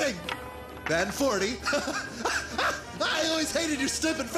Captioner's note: laughs